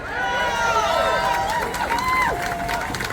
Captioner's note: applause